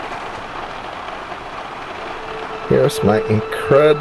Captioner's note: heavy Rain Sounds